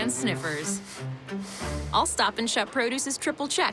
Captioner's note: inhales